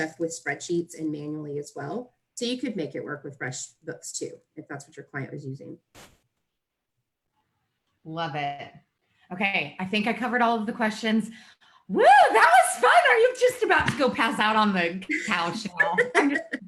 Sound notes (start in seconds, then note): 15.2 both laugh